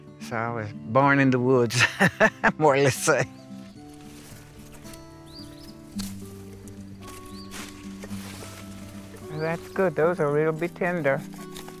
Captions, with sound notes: So I was born in the woods (laughs) more or less you'd say. (Leaves and grass rustling) That's good. Those'll really be tender.